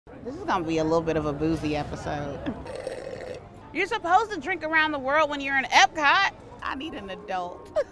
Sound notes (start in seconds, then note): 2.6 sipping drink